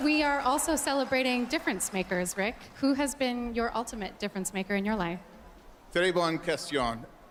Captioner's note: cheers and Applause